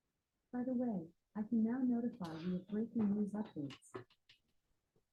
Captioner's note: automated voice